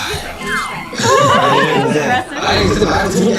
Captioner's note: haha